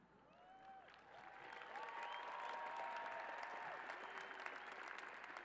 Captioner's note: cheers and applause